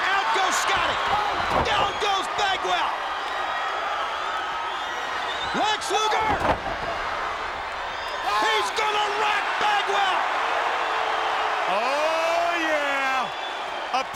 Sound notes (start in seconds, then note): 3.0 crowd cheering; 7.9 Lex screams; 10.7 crowd cheering